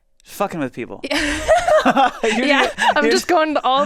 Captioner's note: laughs